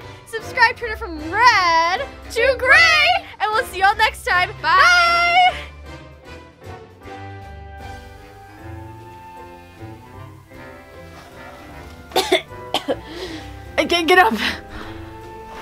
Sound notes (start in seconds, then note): 12.2 coughing